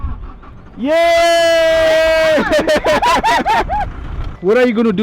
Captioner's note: the engine started